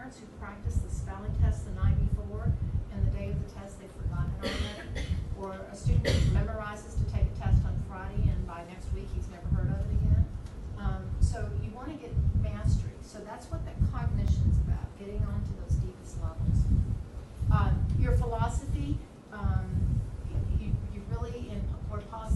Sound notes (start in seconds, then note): 6.0 coughing drowns out speaker